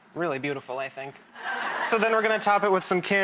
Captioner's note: audience laughs